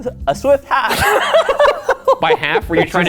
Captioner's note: laughing